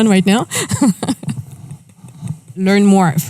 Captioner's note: laughs; chuckles